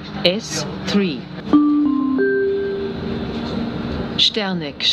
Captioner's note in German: Gong